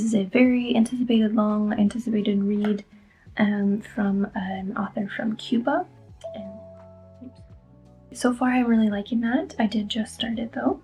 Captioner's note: notification